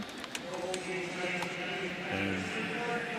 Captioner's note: pa announcement